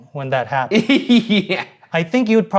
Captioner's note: laughs